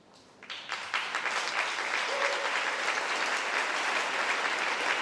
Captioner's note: applause